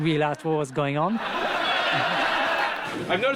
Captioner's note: all laughing